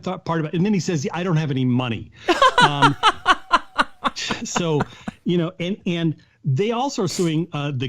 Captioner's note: laughter